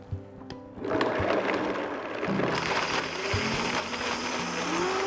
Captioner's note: blender blending